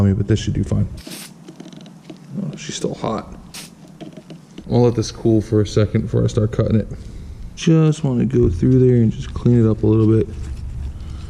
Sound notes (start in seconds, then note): none